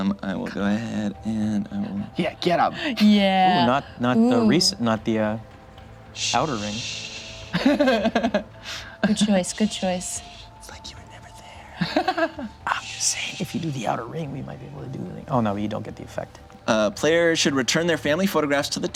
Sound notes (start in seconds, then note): 7.4 laughs; 11.8 laughs